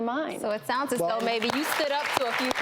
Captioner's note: applause